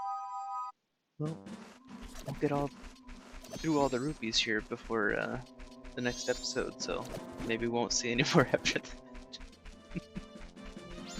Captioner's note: chuckles nervously